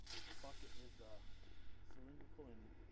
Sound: fire hissing

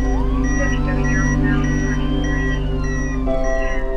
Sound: beeps

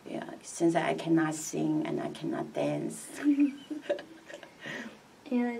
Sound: laughs

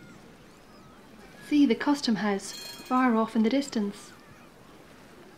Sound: tram bell rings

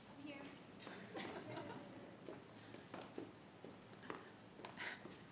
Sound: laughing

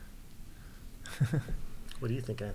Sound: laughing

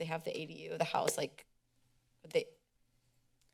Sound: claps

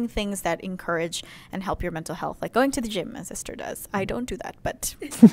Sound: laughter

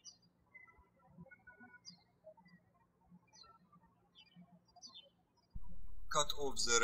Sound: birds chirping

